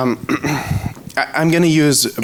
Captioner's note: clears throat